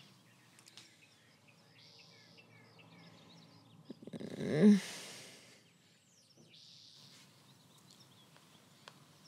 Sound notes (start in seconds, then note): 2.0 Annette groans